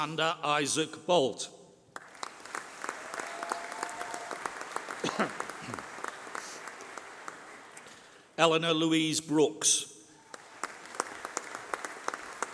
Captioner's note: applause